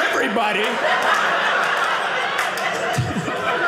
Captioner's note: audience laughing